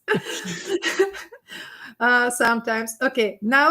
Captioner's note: group laughing